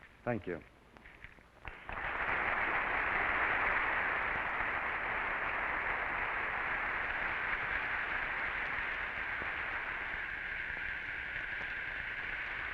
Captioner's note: applause